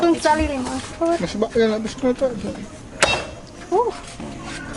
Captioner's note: speaking Mayan